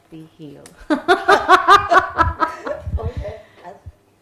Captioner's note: both laughing